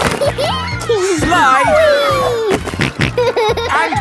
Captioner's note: giggles; snorting